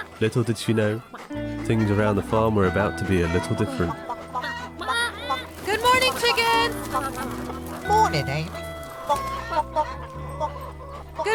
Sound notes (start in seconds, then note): 3.9 chickens clucking; 6.9 wings fluttering; 8.9 chickens clucking